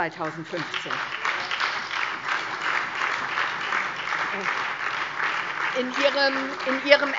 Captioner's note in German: Beifall SPD, vereinzelt Freie Demokraten und DIE LINKE